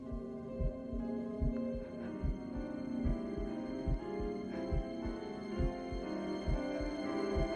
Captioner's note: eerie music intensifies; heart beat intensifies